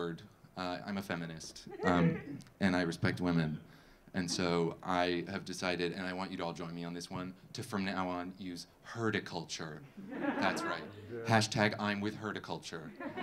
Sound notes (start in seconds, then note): 10.0 audience laughing; 12.9 audience laughing